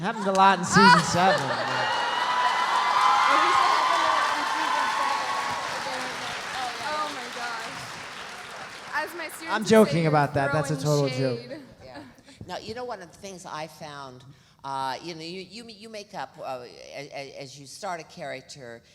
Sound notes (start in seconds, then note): 1.2 audience cheering